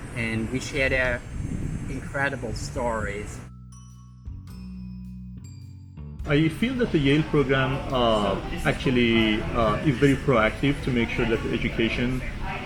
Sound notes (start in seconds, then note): 3.3 tranquil music; 6.3 people chattering